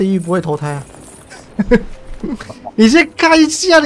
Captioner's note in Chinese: 呵呵